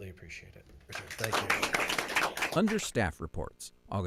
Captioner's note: applause